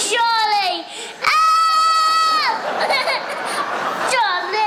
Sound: cries

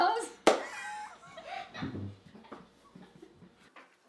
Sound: chuckling

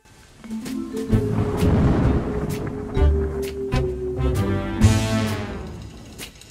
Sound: mellow jazzy music; thunder rumbling

